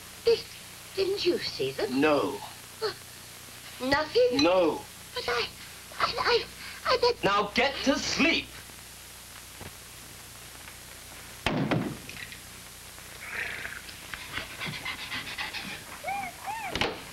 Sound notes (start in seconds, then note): 7.0 raising voice; 13.1 she hisses like a cat; 14.4 she pants and whines like a dog